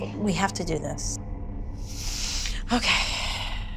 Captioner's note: inhales sharply